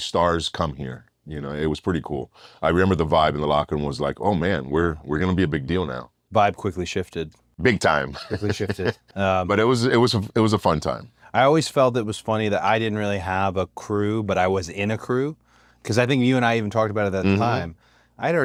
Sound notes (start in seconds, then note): 8.0 laugh